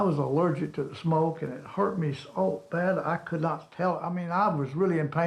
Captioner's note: none